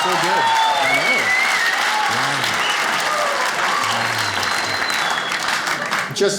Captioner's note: audience cheers